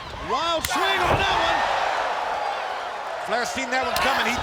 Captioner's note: blows thudding